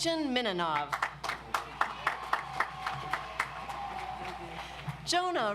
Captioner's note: audience applauds